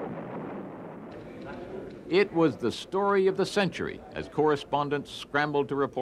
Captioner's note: explosions